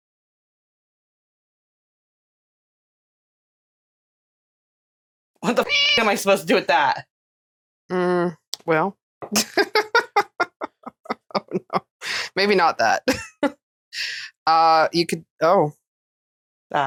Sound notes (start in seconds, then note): 5.6 meow